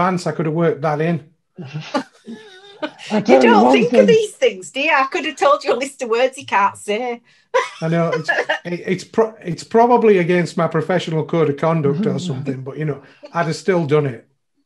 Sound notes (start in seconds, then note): 7.6 laughs